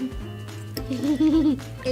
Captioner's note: laughs